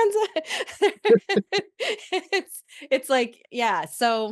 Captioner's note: laughter